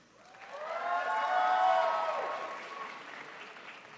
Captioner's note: crowd applauds